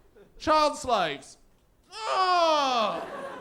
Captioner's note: Bigger depressed groan